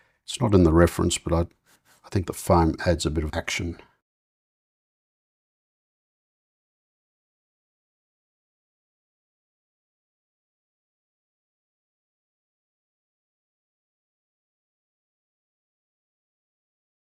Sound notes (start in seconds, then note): 4.9 silence